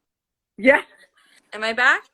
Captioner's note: laughs